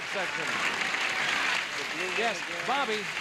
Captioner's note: audience applauds